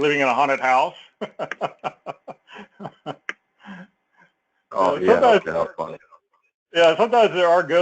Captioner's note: laugh